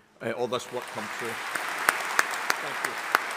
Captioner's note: audience applauding